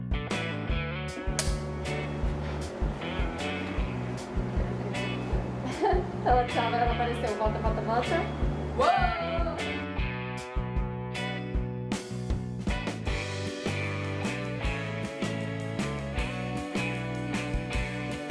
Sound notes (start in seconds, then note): 1.3 clapperboard hits; 5.6 laughing